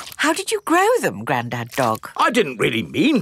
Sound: none

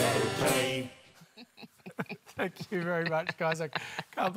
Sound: laughter

